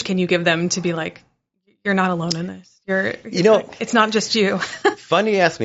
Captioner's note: chuckles